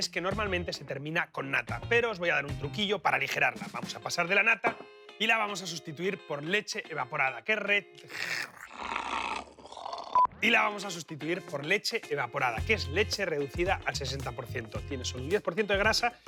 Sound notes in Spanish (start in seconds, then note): 8.0 gruñe